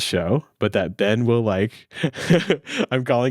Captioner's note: laughing